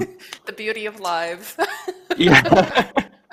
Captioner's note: laughing; laughs